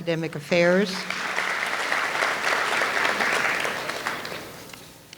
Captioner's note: audience applauds